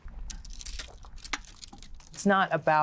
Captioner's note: scraping